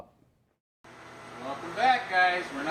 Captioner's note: narrating